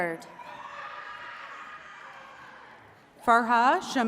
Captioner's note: attendees cheering